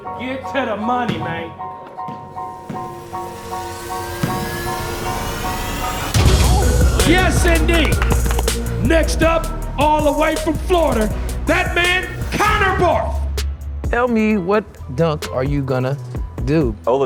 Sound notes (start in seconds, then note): 3.1 music intensifies; 7.7 clapping